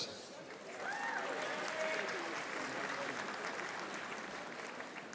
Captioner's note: audience applauding